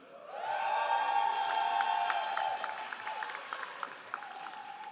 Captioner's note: all applauding